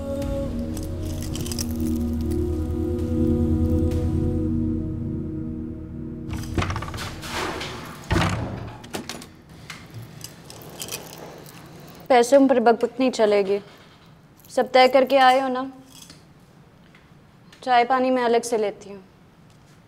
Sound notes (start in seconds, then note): 8.1 door shuts